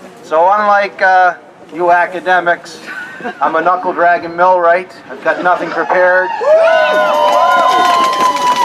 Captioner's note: applause